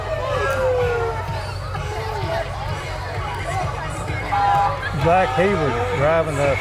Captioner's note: people chatter; upbeat music